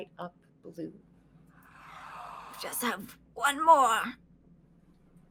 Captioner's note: gasping